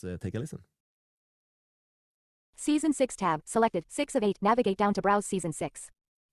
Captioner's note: screen Reader talking